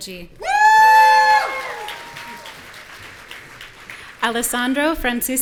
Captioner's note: audience cheering